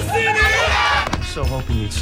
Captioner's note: audience cheers